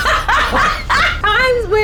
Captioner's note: players laughing